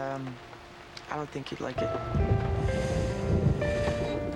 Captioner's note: thunder